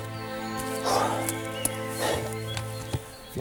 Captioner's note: panting